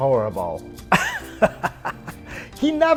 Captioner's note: chuckling